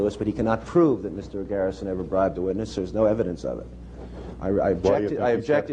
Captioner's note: none